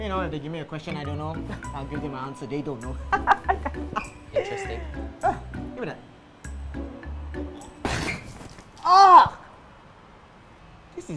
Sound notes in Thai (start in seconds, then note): 3.0 หัวเราะ; 7.9 สำลัก